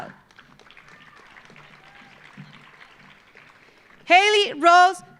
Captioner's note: audience applauding